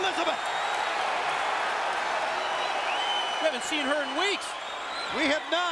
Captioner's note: applause